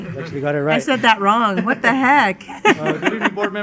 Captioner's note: woman's Voice